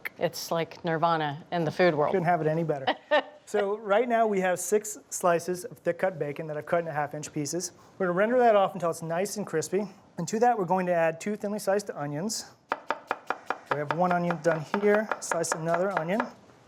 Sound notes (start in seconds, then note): 2.8 laughs; 12.7 knife chopping